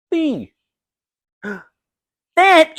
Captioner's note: gasp!